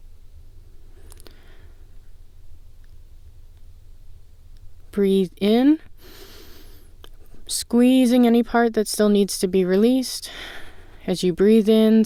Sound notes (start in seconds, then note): 6.0 inhale